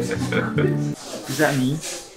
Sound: both chuckle

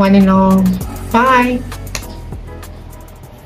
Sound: flying kiss sound

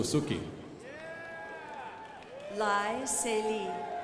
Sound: crowd applauding

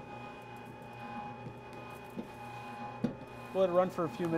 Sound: machine roaring

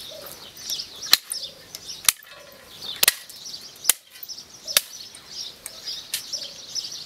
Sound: birds chirping; shovel smacking

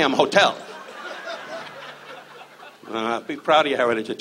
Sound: audience laughs

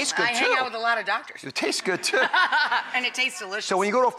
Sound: laughs

